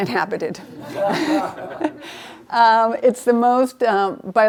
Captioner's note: laughing